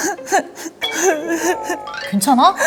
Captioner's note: sobbing